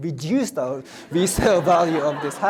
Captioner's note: audience laughs